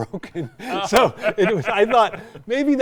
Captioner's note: both laughing